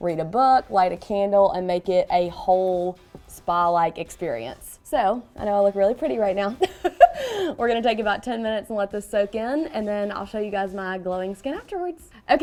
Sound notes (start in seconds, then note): 6.6 laughs